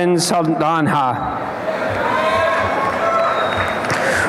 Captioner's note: applause and cheering